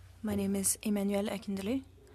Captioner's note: speaking French